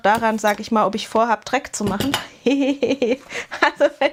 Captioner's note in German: gelächter